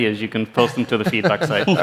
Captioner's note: laughter